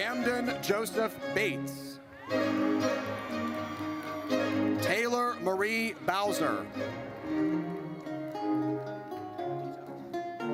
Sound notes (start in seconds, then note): 2.1 audience cheers; 7.3 triumphant music